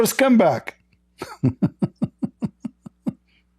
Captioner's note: Ketawa